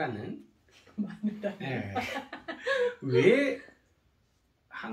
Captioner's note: laughs